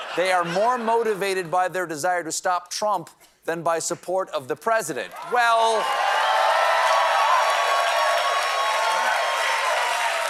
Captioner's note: applause